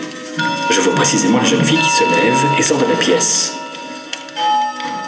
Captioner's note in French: carillon+voix du chat